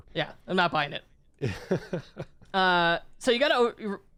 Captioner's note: chuckling